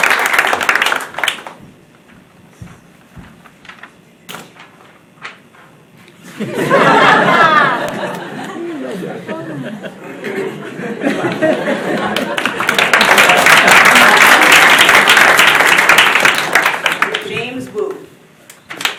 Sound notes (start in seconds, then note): 6.4 laughing; 11.9 applause